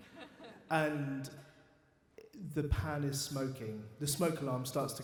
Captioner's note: audience laughs